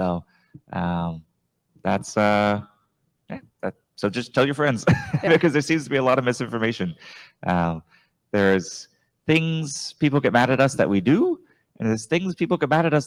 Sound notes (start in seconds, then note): 4.8 chuckles